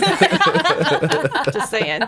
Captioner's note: laughing